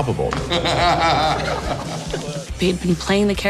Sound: laughing

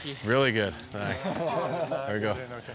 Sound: all chuckling

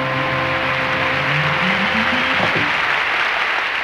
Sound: audience clapping

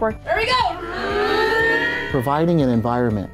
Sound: students mimicking sound of plane

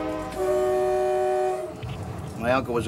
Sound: train honks

